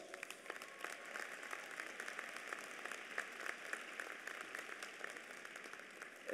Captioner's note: applause